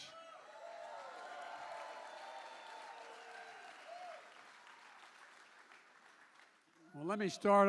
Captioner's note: applause